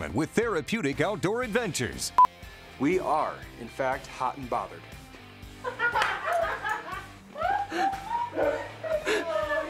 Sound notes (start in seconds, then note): 2.1 beep; 5.6 all laughing